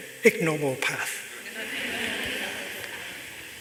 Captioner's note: laughter